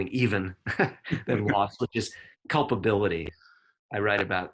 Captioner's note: chuckles